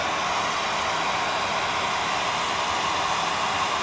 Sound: loud whirring

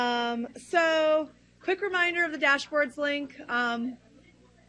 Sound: laughs

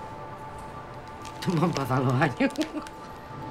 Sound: laughs

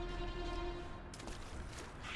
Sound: splash

